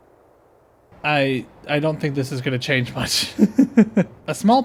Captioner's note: laughter